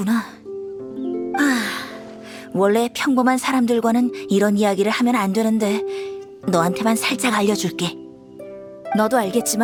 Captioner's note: sigh